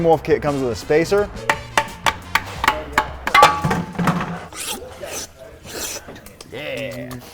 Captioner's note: clanking; loud thud